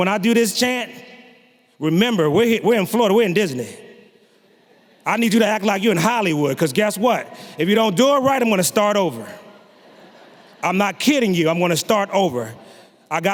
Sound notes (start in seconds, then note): 4.3 audience laughing; 9.5 audience laughing